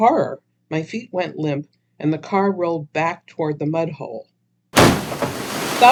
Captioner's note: sound: car falling into water